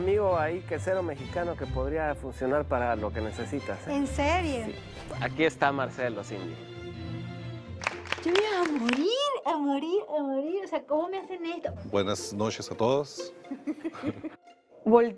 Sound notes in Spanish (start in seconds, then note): 7.7 Aplausos